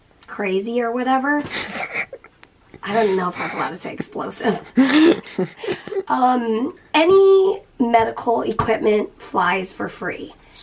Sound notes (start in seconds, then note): 5.2 both chuckling